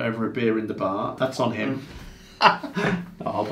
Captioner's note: laughs